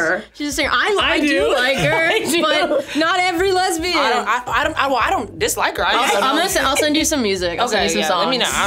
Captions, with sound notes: what that is. - She's a singer. I do. - She's a singer, I do like her. But not every lesbian. - I do. (laughs) - I don't dislike her, I don't-- - I'll send you some music, I'll you some songs. - Okay, yeah, let me know.